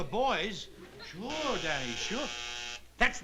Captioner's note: buzzer